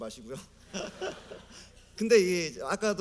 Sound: laughter

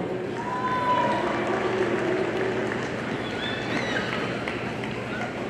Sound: audience applauding

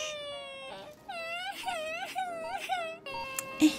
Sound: loud continuous sobbing

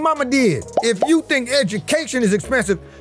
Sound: word pops

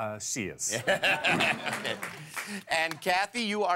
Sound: laughter

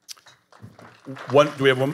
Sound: audience applauding

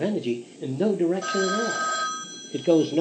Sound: phone rings

